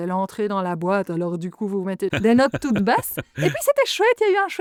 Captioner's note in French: Rires